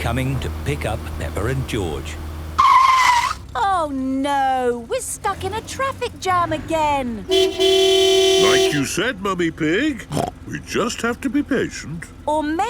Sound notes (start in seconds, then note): 2.8 tires screeching; 7.2 honking; 10.7 snorts